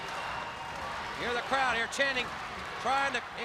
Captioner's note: crowd cheering